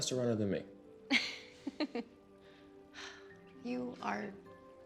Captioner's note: Candace laughs